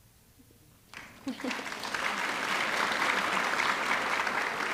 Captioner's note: audience clapping